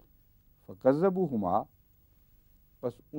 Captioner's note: Arabic